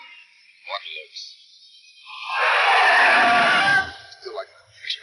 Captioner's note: tires screeching